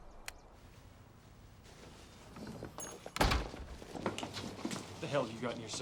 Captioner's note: click; bell dings, door closes